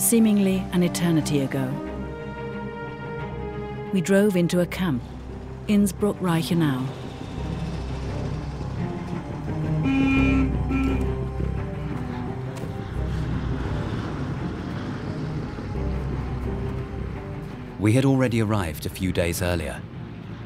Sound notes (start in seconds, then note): 8.1 suspenseful music; 12.0 horn honks